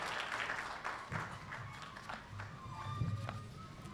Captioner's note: applause